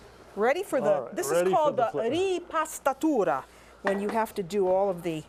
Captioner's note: speaking Italian